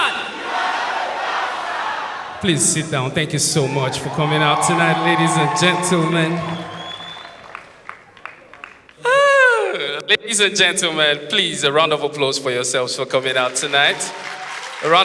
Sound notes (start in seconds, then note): 9.0 sigh